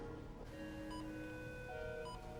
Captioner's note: monitor beeping